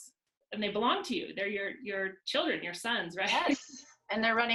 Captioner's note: laughs